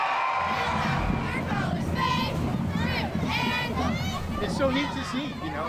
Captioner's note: cheers and applause